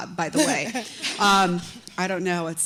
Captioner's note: chuckle